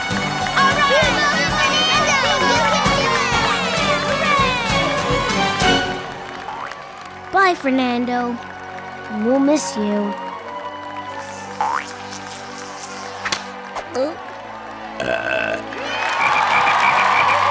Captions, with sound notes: - All right! - You got it, Fernado! You can do it! Hooray! - Bye, Fernando. - We'll miss you. [buzzing] [belching] [croaking]